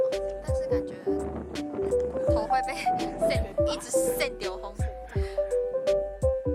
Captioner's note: in Taiwanese